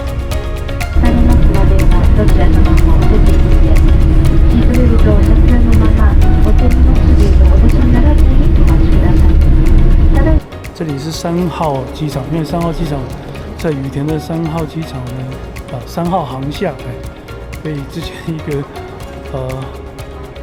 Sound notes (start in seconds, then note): 0.9 sound of in-flight announcement